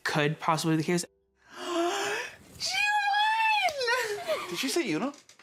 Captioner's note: gasp